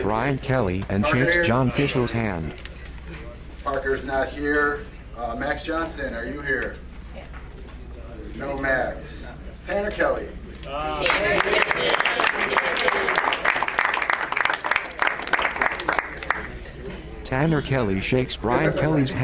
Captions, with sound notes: Parker, Parker here? Parker is not here, Max Johnson, are you here? No Max. Pena Kelly? (crowd applauds)